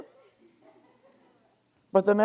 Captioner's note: students laughing